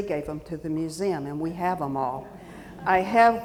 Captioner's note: audience laughing